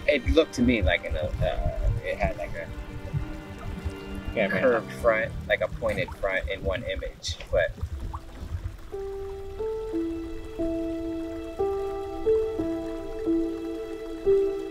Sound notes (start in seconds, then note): 8.1 gentle music; 9.0 water bubbling